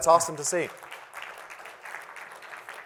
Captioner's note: applause